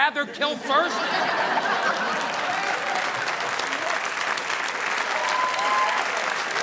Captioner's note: audience laughing; audience applauding